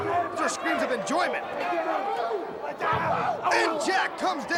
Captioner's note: crowd chatter